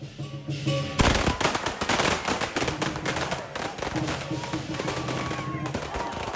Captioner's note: firecrackers popping